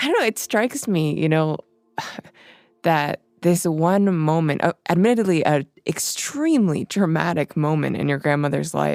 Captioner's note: sighs